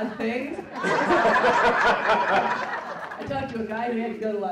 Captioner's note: laughing